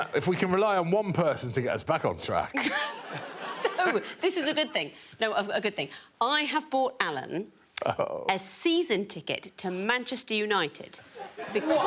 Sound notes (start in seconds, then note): 2.6 audience laughing; 4.0 laughs; 7.6 Alan groaning